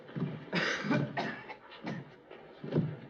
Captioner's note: coughing